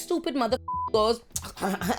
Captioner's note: beep